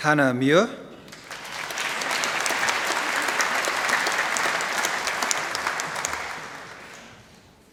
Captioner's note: applause